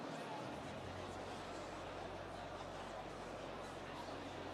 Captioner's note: none